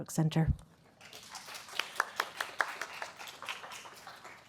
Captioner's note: applause